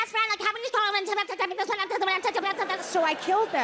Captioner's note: speaking gibberish